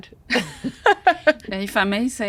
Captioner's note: laughs